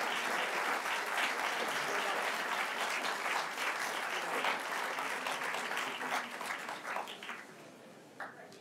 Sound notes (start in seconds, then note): 1.8 applause continues